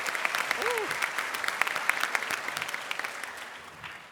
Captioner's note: applause